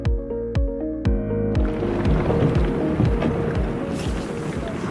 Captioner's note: rumbling